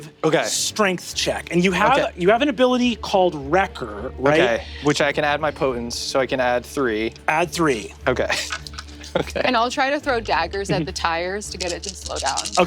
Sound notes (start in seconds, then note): 8.2 laughs